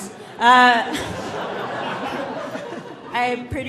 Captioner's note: audience laughing